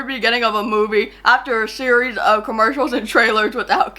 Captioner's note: laughs